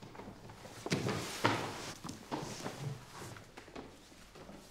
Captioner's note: shoes clanking